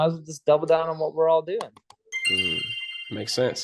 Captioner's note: chime sound